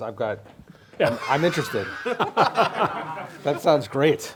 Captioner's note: laughing